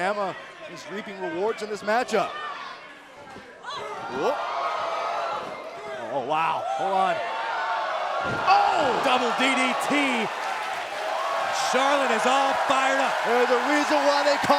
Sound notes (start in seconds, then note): 3.8 crowd cheering; 9.7 crowd cheering